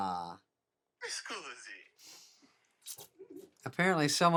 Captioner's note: man's Voice Over Phone